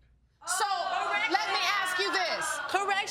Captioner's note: audience exclaims